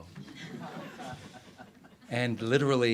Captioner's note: audience laughs